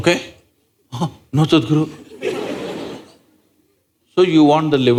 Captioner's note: laughter